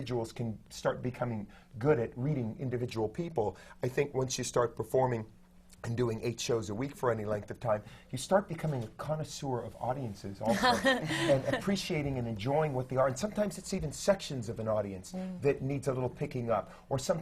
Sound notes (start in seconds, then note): 10.4 sutton laughs